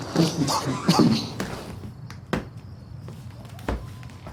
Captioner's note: Miles coughs